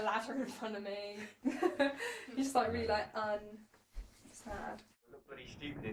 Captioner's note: laughing